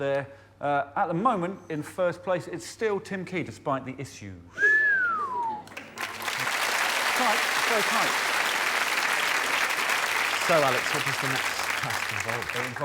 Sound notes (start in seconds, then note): 4.5 whistles; 5.6 applause